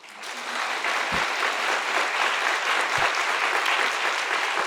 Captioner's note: participants applauding